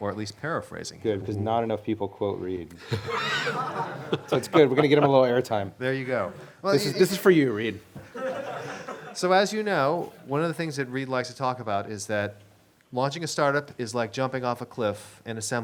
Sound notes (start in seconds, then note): 2.8 laughing; 8.0 laughter